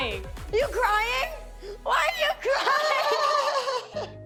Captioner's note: all laughing